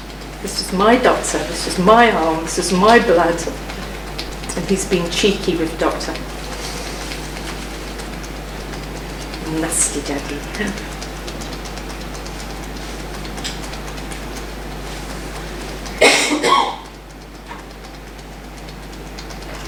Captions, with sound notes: - This is my doctor, this is my arm, this is my blood. And he's being cheeky with the doctor. (tapping) Nasty daddy. (tapping)